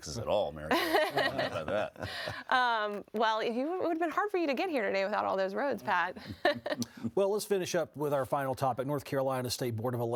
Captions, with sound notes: - Without a council not having any taxes at all, Mary. (laughing) Well, it would have been hard for you to get here today without all those roads, Pat. - Well, let's finish up with our final topic.